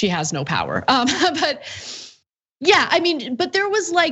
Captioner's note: laugh